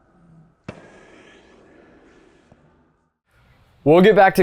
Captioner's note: racket hits